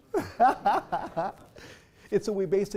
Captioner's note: laugh